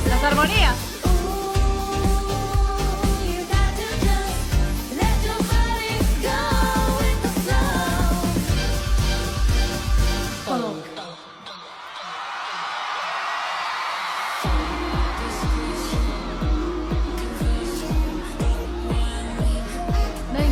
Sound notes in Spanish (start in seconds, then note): 14.4 ovación